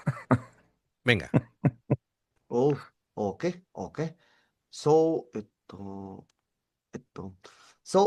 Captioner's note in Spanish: risas